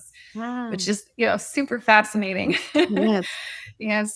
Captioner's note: chuckles